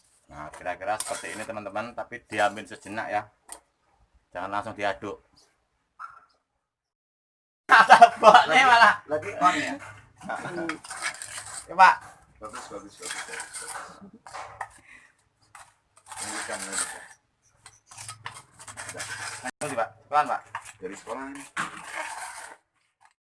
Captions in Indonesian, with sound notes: kira-kira seperti ini teman-teman, lalu diamkan sejenak nanti baru diaduk mau saya masukkan video hehehe (tertawa) sedang membuat pot ini dari sekolah pak ? iya dari sekolah